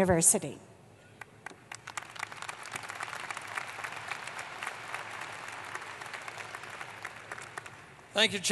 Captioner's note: applause